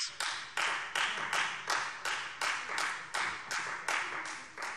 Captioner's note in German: Beifall Freie Demokraten